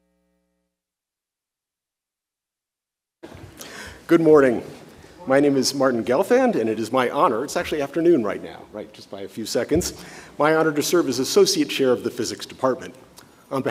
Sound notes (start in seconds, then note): none